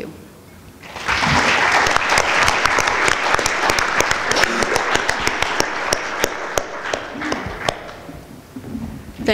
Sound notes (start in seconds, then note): 2.6 applause